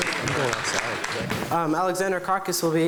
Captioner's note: clapping